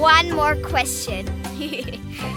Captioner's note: giggling